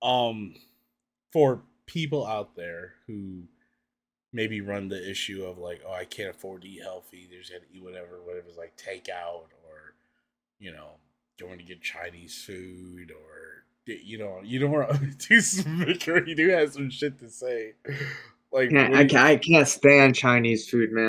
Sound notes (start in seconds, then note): 14.5 laughs